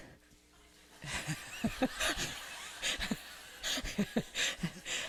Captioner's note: laughter